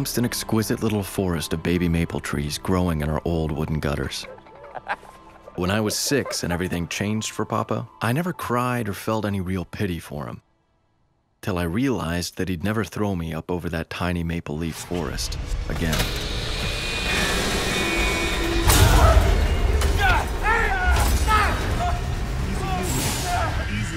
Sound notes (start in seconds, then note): 16.3 machinery whirs and buzzes; 17.5 machine boom; 18.6 cries out in pain; 21.7 hugh: groans and cries out